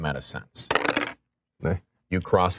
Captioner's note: dice rolling